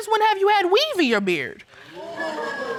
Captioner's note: audience laughs